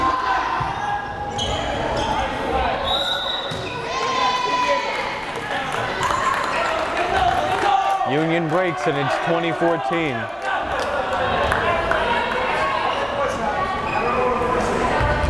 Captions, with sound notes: (whistle blares) (crowd cheering) Union breaks and it's 20-14.